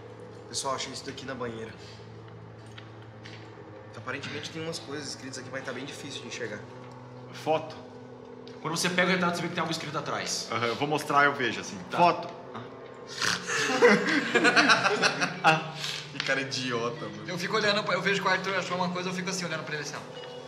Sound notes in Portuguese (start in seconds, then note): 13.4 Risadas